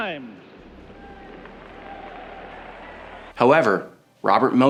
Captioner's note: crowd applauds